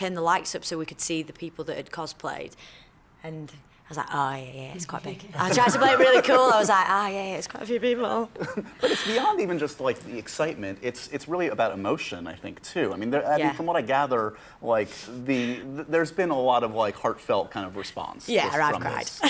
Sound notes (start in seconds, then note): 5.4 laughter